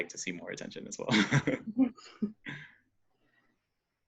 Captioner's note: laughing